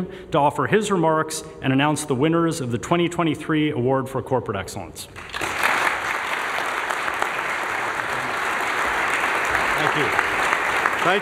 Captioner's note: applause